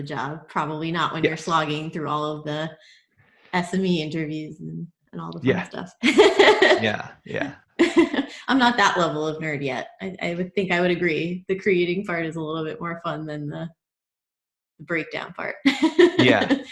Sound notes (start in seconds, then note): 6.0 laughs; 15.8 laughs